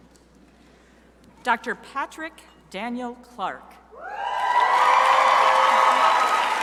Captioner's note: crowd cheering